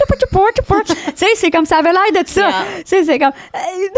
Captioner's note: DJ sounds; in french